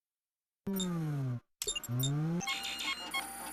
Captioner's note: beeping